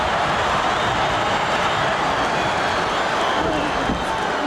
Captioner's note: audience cheering